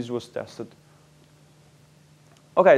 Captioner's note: pause